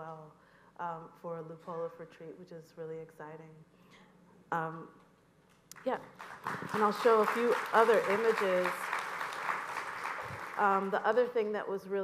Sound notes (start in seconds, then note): 9.4 applause